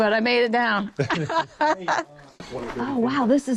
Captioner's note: laughs